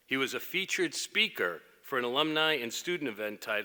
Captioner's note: none